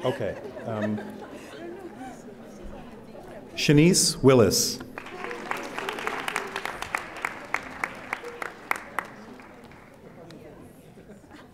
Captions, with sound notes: Okay. Shanice Willis. (audience applauding)